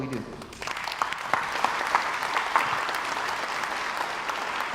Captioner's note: crowd applauds